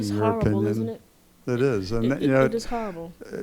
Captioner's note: voiceover